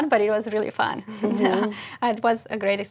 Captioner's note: laugh